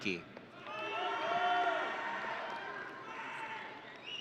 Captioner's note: audience cheering